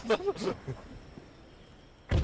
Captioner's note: laughing